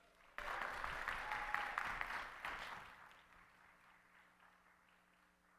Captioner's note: audience clapping